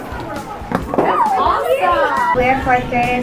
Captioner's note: muffled yelling; thudding